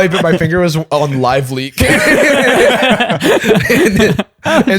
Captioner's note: laughter